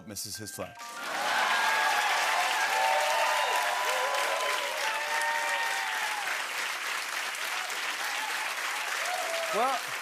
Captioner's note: cheers and applause